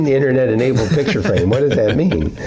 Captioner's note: laughter